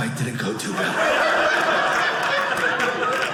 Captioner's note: audience laughing